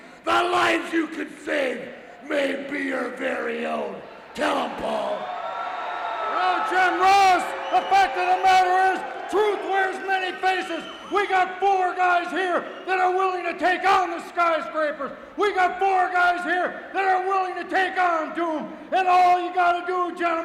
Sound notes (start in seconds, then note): 5.6 crowd cheering